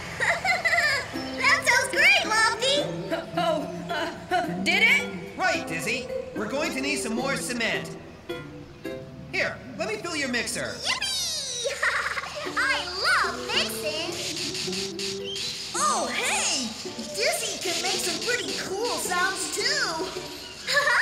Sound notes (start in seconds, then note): 0.1 Muck Laughing; 11.6 giggling; 13.4 mixer Grinding